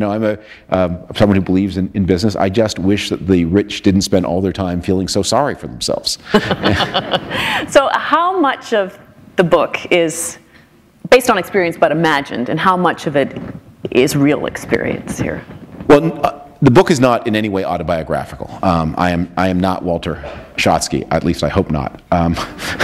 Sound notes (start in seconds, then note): 6.3 laughter